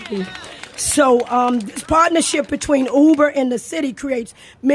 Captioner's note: applause